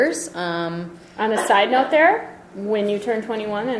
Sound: voiceover

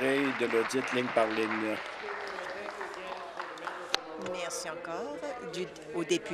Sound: applause

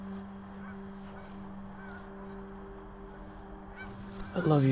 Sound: geese honking

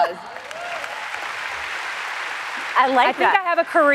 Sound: applause

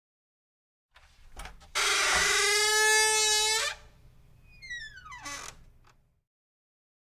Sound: sound of door creak

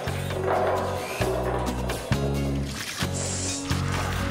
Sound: engines Revving

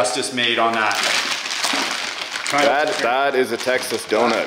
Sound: plastic rustling

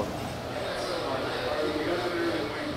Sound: backround coffee shop conversations

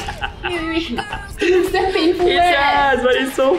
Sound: laughs

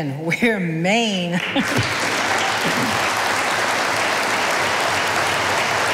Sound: audience applauding

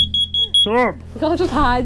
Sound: beeping

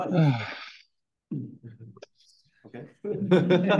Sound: sigh; laughter

